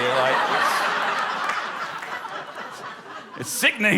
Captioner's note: laughter